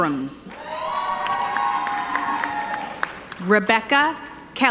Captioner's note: audience applauding